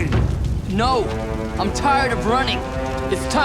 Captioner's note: shouting; flames crackling